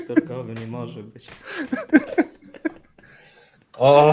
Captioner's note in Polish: śmiech